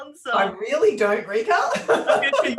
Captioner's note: laughs